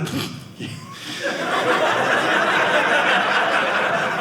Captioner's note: audience laughing